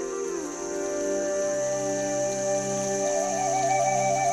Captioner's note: water flowing